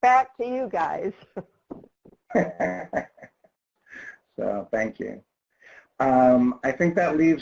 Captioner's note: chuckles